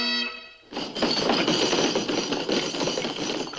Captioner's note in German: auf den Tisch schlagen